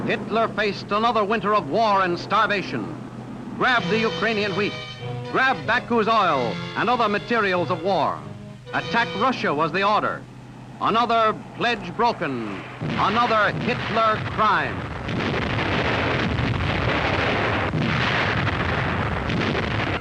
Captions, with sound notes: Hitler faced another winter of war and starvation. Grab the Ukrainian wheat, grab Baku's oil and other materials of war. Attack Russia was the order. Another pledge broken. Another Hitler crime. (explosion booming)